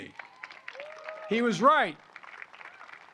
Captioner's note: applause